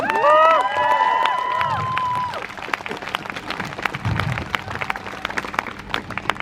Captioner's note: crowd cheers